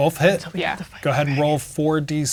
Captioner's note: whispering